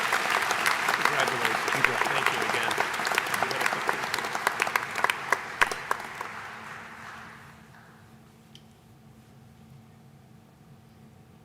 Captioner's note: applause